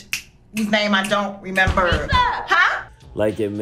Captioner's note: pounding on door